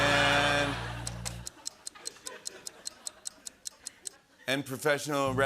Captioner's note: clock ticking